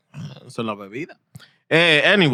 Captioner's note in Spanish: Hablando en idioma extranjero